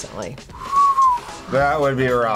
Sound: whistles

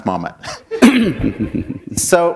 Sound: laughter; chuckle

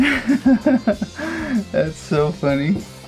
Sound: laughing

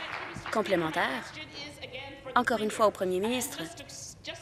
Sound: applause

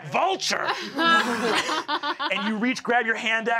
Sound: laughs

